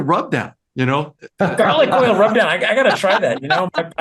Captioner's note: laugh